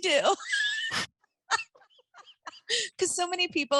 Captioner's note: laughing